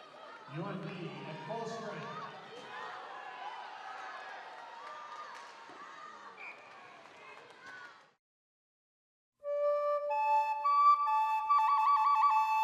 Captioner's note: cheering